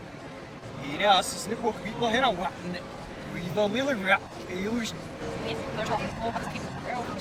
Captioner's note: speaking backwards